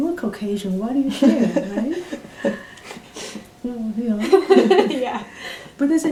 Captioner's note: laughs